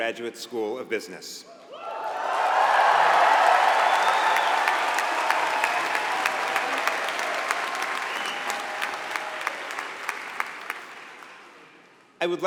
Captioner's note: applause